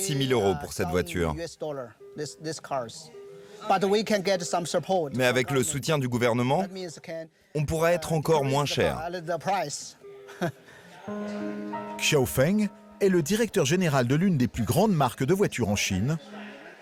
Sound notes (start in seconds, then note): 10.3 chuckles softly; 11.0 soft piano music